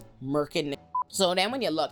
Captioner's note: beep